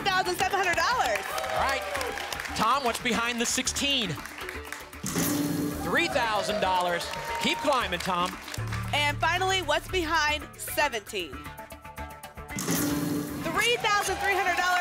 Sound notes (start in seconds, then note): 2.1 applause and cheering